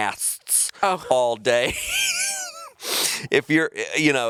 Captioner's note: chuckling